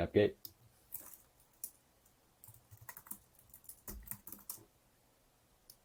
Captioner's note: rapid typing and mouse clicking